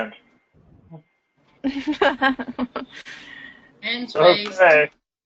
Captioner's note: laugh